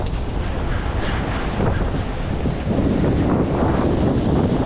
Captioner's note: wind